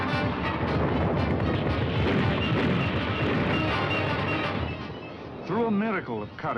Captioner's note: bombs exploding